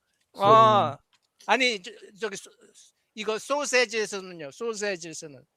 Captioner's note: non-english speech